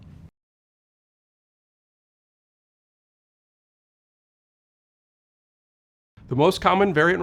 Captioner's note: no audio